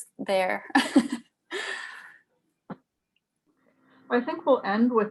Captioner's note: laughs